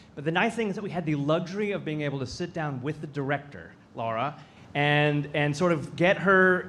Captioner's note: none